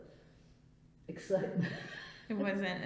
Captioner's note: laughs